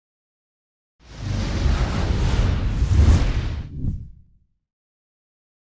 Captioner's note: windblast sound effect